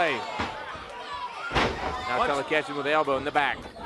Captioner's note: crowd cheering